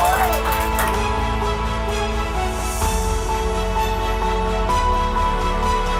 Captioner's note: cheers